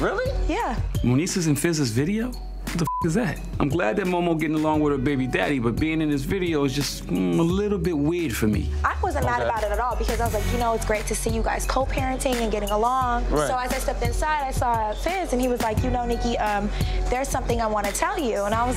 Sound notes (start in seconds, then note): 2.8 beep